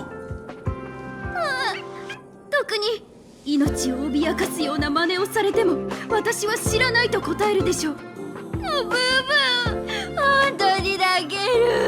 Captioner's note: sob